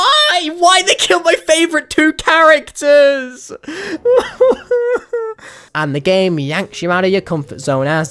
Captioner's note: ironic crying; inhale